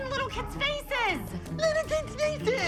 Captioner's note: mocking